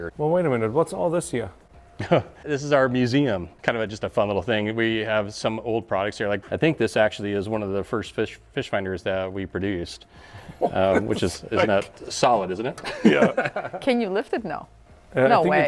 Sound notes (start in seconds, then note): 2.0 chuckles; 13.2 laughing